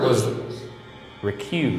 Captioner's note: automated voice speaks